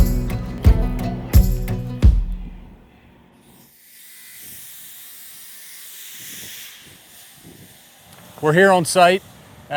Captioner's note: construction Sounds